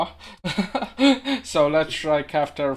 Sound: laughing

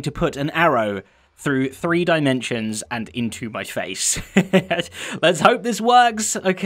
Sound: chuckles

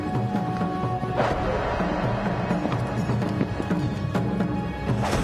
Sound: air whooshing

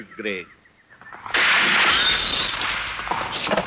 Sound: gunshot

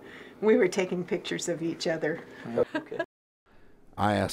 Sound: laughs

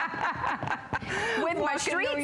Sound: laughter

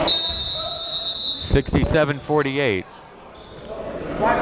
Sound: whistle blows

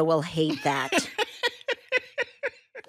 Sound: laughs

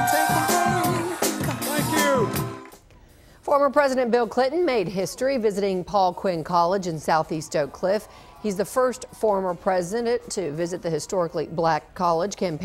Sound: cheering and applause

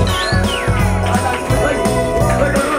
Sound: cheering

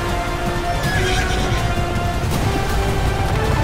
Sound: horses neighing

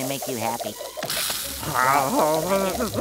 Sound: moaning

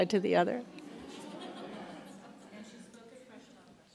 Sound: laughs

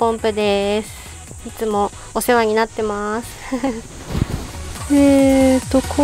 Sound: laughs

